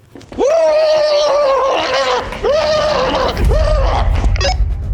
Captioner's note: Ryan mimicking Pennywise